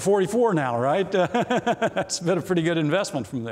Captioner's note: laughs